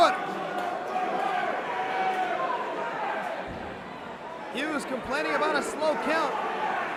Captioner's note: crowd chatter